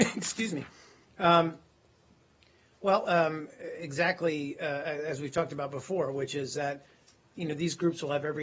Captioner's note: coughing